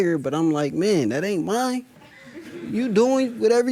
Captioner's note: audience laughing